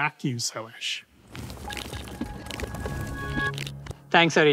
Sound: transition sound effect

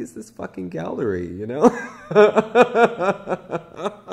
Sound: laughs

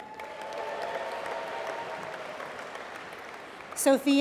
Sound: applause

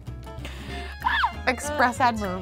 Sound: Kelsey squeals

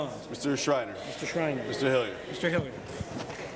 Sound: none

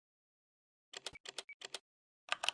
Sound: keyboard typing

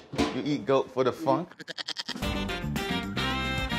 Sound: goat bleating; upbeat music

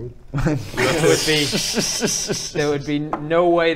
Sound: laughs

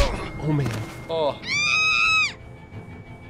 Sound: Clementine screams

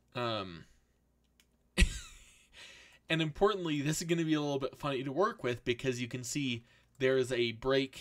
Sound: laughs

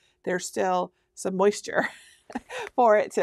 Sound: laughing

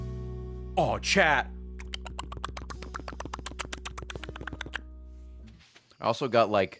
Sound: licking noises

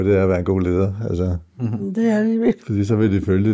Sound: laughs

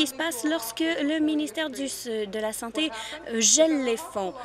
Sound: speaking French

